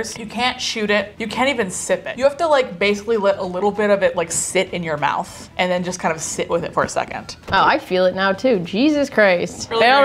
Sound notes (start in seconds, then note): none